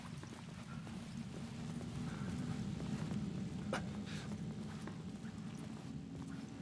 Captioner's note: wind whistling